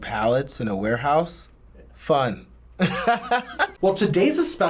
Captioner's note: laughs